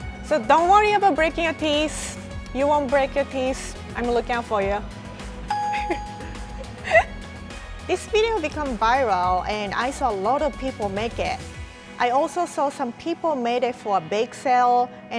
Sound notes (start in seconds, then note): 5.5 chime; 6.8 laughs